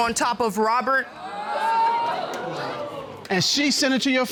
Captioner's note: audience exclaiming